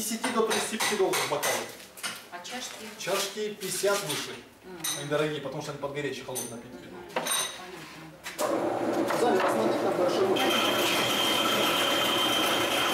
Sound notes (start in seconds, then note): 8.4 whir machine